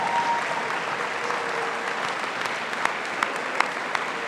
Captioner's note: audience applauding